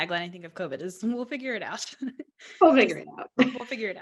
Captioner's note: laughs